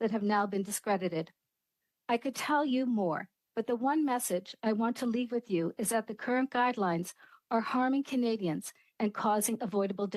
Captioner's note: speaking French